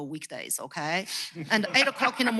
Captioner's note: laughs